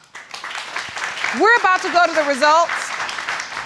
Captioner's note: applause